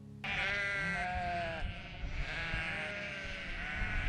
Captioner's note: sheep bleat